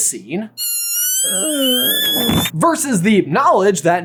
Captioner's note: squealing scream; fainting groan